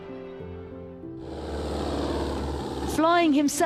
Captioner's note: plane engine rumbling